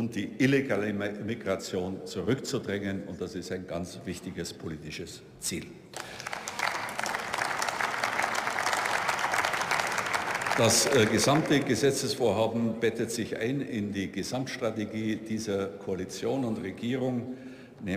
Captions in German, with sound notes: Und die illegale Migration zurück zu drängen. Und das ist ein ganz wichtiges politisches Ziel. (Beifall) Das gesamte Gesetzesvorhaben bettet sich ein in die Gesamtstrategie dieser Koalition und Regierung.